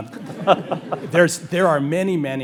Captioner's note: panelists and audience laugh